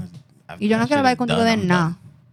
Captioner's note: non-english Speech